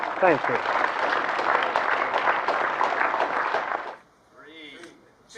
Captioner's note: applause